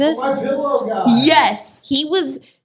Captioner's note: PC Voice